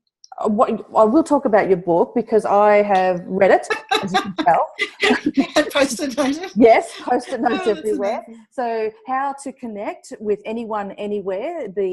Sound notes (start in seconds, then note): 3.5 laughs